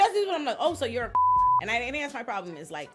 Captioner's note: beep